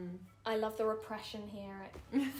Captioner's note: laughing